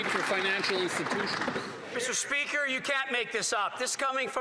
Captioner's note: applause